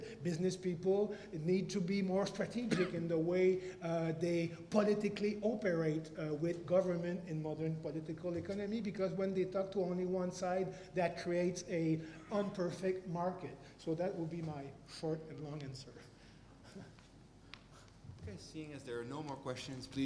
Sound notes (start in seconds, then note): 16.6 laugh